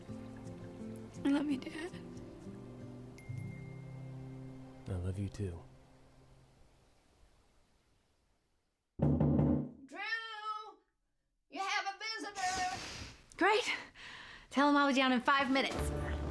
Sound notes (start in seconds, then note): 1.1 tearfully; 9.0 knocking on door